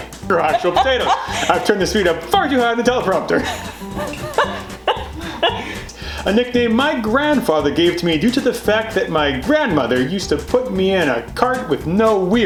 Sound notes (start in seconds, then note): 0.4 laughter; 3.4 laughter